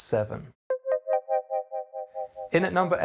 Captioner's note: electronic tones